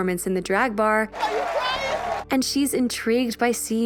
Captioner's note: shouting